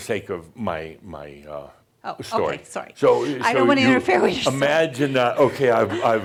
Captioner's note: she chuckles